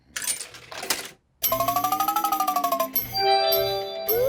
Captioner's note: beeps and chimes